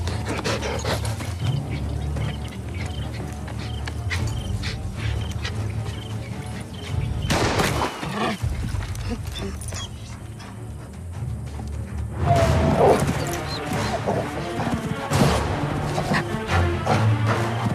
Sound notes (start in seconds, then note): 7.3 gun firing; 12.5 dramatic music; 12.7 growling